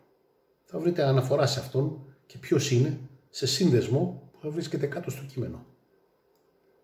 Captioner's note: in Greek unfortunately